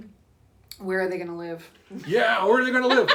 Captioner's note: laughs